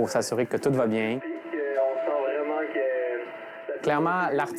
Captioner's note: male voice on the radio